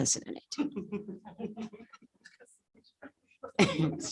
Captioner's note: laughter